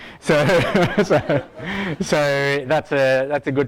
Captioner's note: laughs